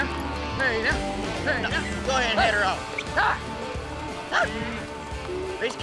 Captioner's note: shouting, whistling